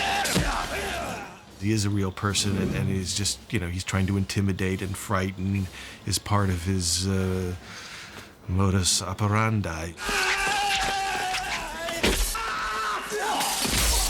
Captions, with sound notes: [GRUNTS] He is a real person... ...and he's just, you know, he's trying to intimidate and frighten. It's part of his, uh, modus operandi. [YELLING] [SCREAMS]